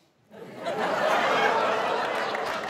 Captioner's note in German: Gelächter